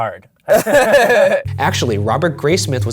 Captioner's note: laughter; voiceover